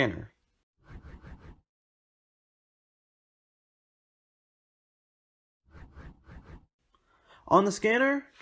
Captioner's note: transition swooshes